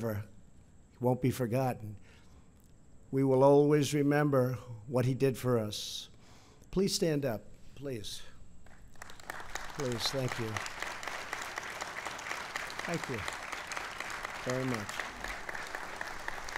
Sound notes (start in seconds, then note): 9.9 applause